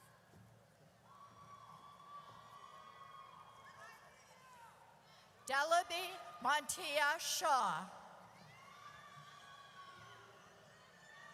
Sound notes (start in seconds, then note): 0.2 audience cheers; 7.8 audience cheers